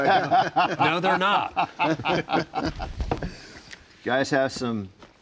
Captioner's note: laughs; laughing